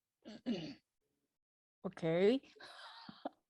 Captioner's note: laughs